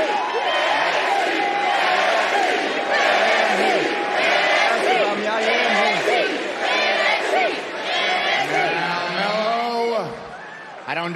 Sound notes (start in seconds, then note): 7.4 cheering